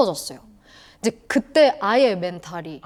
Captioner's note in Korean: 허억